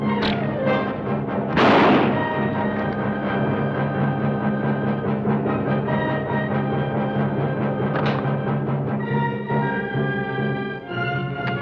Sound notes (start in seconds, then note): 0.1 bow twangs; 1.5 gun fires; 7.8 gun clacks